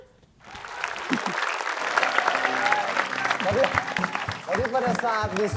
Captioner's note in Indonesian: Tepukan penonton